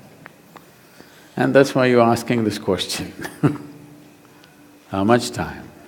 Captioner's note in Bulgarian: смях